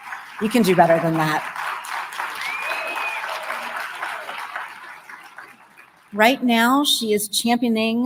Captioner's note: applause